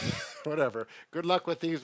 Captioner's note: laughs